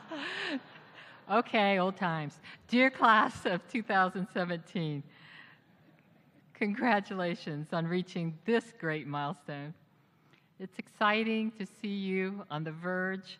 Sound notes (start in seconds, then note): 0.0 laughter